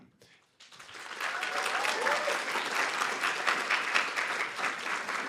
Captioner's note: applause